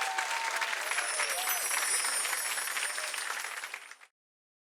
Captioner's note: chiming